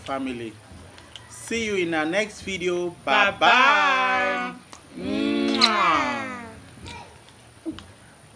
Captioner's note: kisses